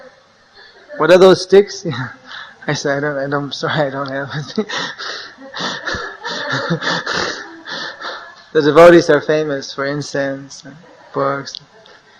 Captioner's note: laughter